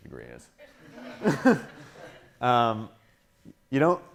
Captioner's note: laughing